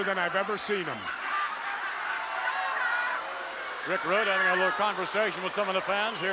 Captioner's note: applause